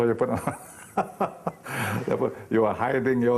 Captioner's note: laughing